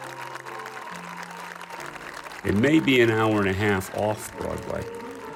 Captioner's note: crowd clapping and cheering